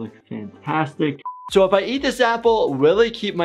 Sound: buzzer beeps

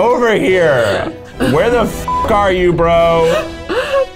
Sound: beep

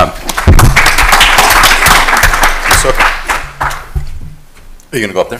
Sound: applause

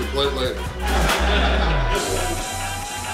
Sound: crowd, Laughing

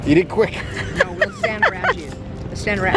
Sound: laughs

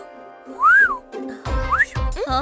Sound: whistles

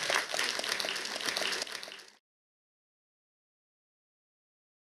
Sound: audience applauding

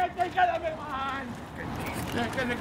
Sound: shouting

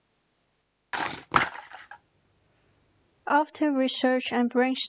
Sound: objects falling

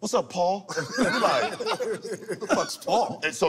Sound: laughter

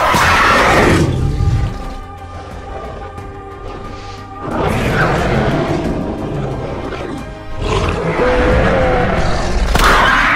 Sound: carnotaurus Growls; Beta Squeals

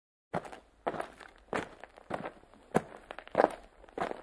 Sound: walking over rocks

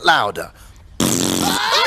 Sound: blows Raspberry louder; laughing

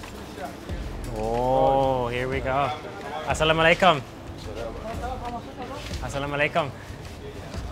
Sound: speaking foreign language

